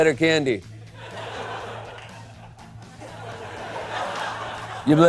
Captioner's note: laughter